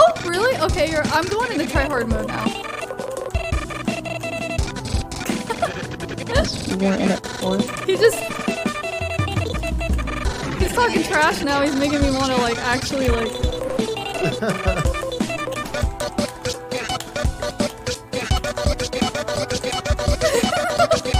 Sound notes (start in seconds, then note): 14.1 laughs